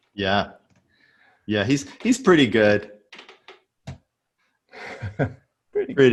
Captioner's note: laughs